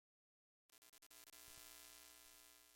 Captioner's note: static